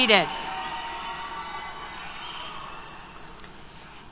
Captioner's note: applause, Cheers